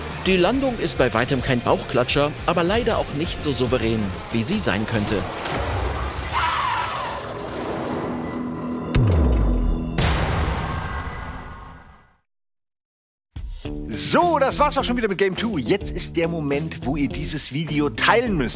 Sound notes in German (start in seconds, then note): 5.5 Schrei; 8.9 Düstere Töne